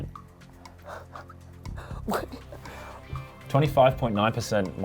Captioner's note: breathing shakily